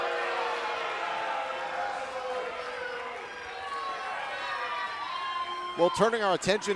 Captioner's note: cheers and applause